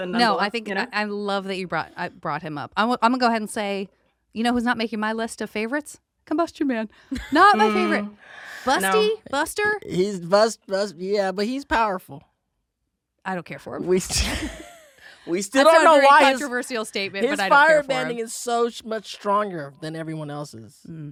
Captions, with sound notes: No, I think I love that you brought him up. I'm gonna go ahead and say, you know who's not making my list of favorites? Combustion Man. Not my favorite. Busty, Buster? He's bus... buster. Yeah, but he's powerful. I don't care for him. [laughs] We still don't know why... It's a very controversial statement. His firebending is so much stronger than everyone else's.